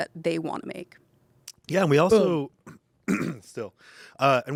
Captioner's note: clears throat